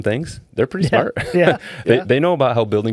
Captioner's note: laughing